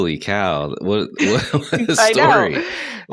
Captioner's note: laughter